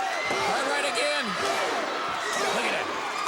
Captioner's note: blows thudding